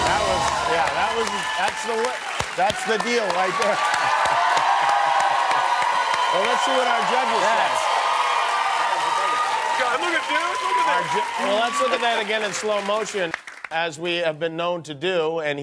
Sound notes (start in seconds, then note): 4.1 laughs; 5.0 applause and cheering